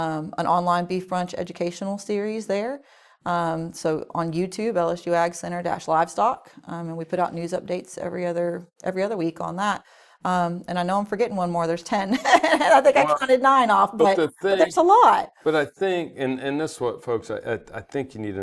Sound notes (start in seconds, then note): 12.3 laughs